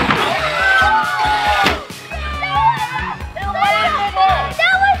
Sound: excited shouting

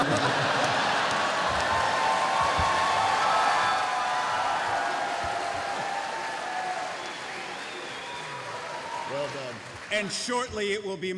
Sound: cheering

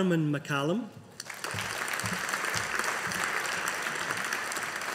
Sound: audience applauding

